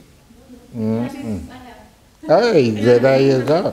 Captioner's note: woman's Voice